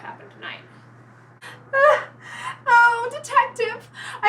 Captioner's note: anguished cry